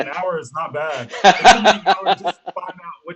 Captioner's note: laughing